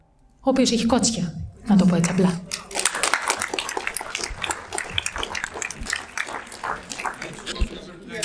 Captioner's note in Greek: χειροκρότημα